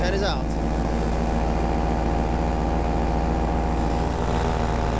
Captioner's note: engine whirring